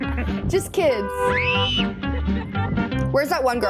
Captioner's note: teen screams